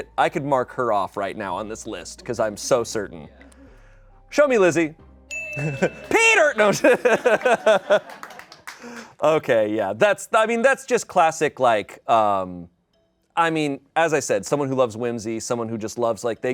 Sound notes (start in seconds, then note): 5.3 bell dings; 8.3 laughs